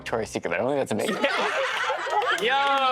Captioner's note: all laughing